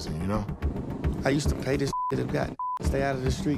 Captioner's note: beep